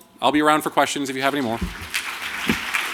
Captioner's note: applause